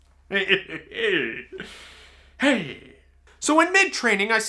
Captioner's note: laughs